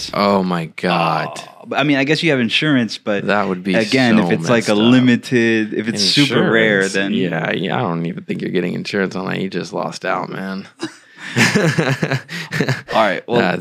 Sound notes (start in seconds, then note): 10.7 laughs